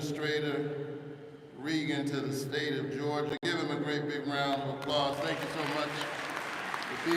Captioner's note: applause